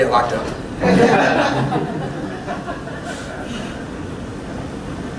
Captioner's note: laughter